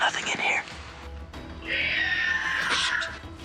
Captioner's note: screeching